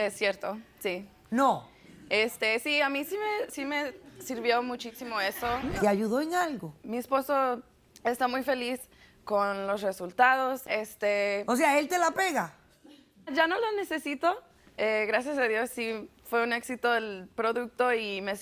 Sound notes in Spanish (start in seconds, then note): 6.6 Ríe